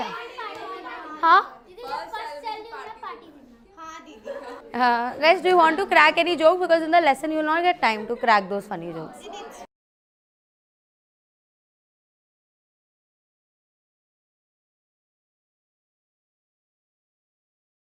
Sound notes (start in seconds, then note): 2.3 speaks foreign language; 4.0 giggles